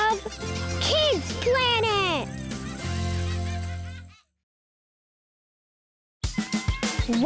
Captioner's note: children laughing